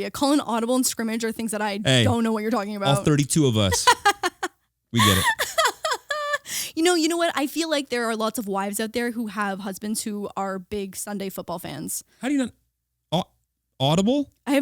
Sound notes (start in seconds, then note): 4.9 laughing